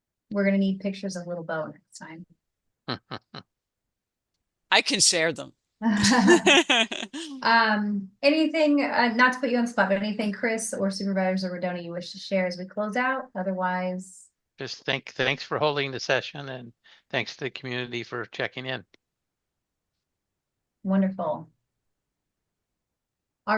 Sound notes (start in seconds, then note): 2.9 chuckles; 5.9 laughter